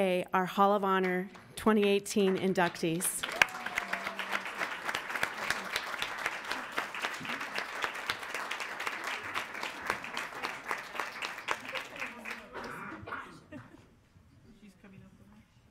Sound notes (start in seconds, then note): 3.2 cheering and applauding; 12.0 people chattering faintly